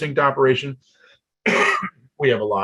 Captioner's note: coughs